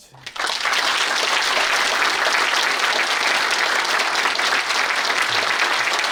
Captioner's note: audience applauding